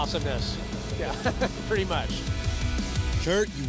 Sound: laughter

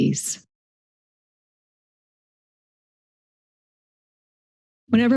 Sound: silence

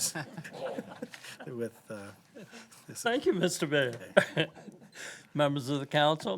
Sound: laughter

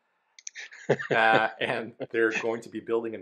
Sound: laughs

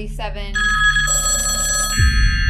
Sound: phone rings; vault buzzes

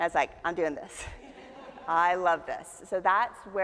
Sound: audience chuckles

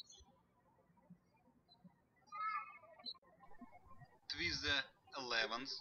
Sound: birds chirping

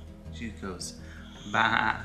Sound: bleating

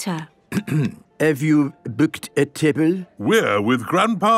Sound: clears throat

